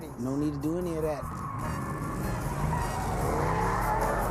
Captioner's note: engine revving, tires screeching